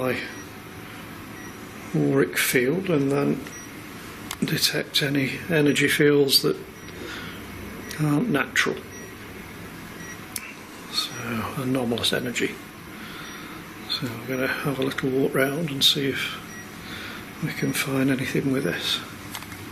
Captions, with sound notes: to my auric field and then detect any energy fields that aren't natural. (computer beeps) Anomalous energy. So, I'm going to have a look, walk round and see if we can find anything with this.